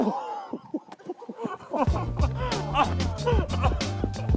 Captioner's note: chuckling; yelling/groaning